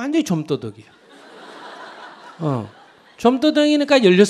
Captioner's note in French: rire du public